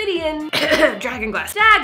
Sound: couging

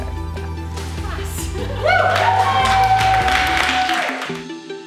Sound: cheering

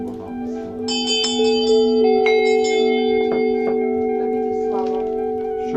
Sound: ding-ding-ding-ding

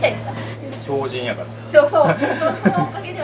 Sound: laughs

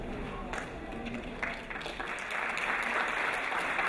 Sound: applause

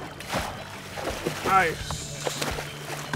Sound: fish splashing

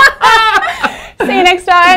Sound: laughing

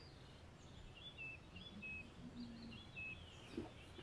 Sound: birds chirping

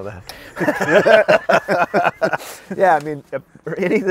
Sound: both laugh

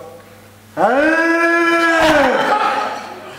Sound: sound of ox

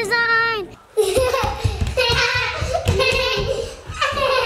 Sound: both laughing

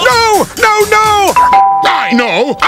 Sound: animal_crossing_idea_emote.wav

